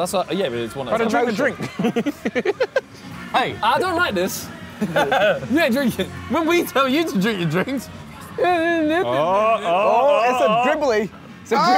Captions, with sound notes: - That's yeah. - It's drink the drink. - Hey, I don't like this. You aint drinking? - Remember when we told you to drink your drinks. (murmuring) - He said dribbly.